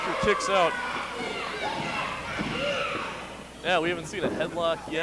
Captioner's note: crowd yells